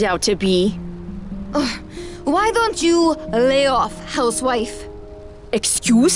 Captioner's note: scoffs